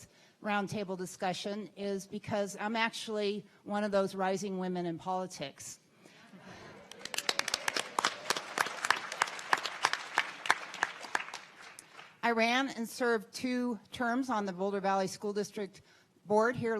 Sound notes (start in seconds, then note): 6.7 audience clapping